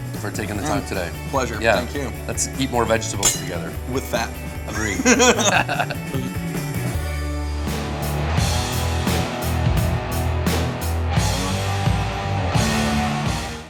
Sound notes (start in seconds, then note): 4.6 both laughing; 4.6 laughs